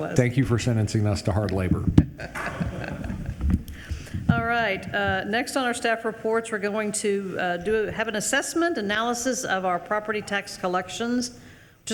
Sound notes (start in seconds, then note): 2.0 attendees laughing